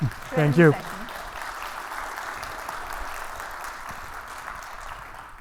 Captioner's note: audience applauding